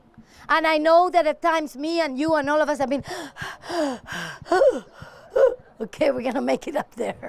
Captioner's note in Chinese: 氣喘吁籲